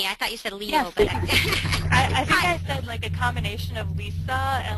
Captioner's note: voiceover